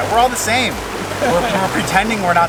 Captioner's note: laughs